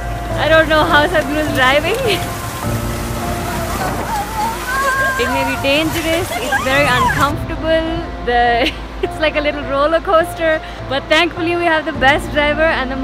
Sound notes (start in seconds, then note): 3.2 laughs; 8.5 laughs